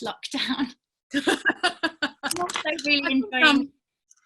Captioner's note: laughing